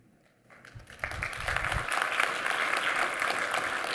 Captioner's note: applause